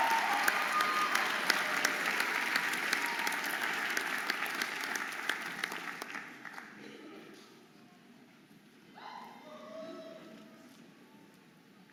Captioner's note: audience applauding and cheering